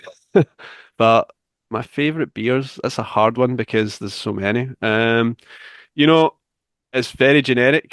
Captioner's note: chuckles